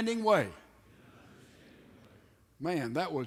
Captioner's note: men repeat